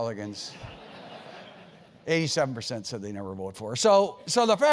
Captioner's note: laugh